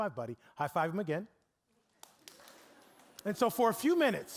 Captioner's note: scattered clapping